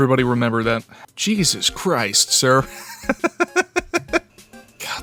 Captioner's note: giggling